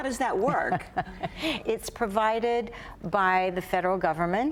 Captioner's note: laughs